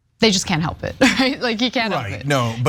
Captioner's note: laugh